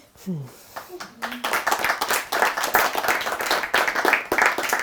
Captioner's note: crowd applauding